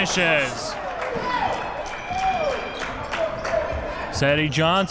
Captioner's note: clapping